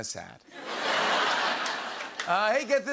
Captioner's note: laughter